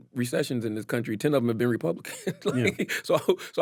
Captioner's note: laughs